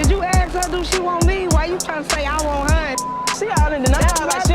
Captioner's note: beep